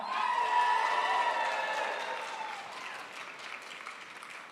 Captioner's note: crowd applauds